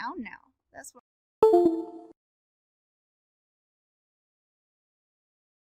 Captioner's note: computer chimes